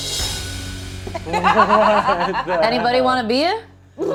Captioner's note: laughing